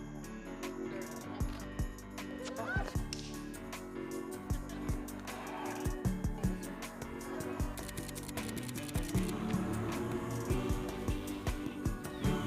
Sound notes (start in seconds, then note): 7.4 cameras clicking; 7.8 upbeat music